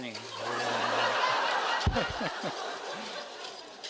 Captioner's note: laughs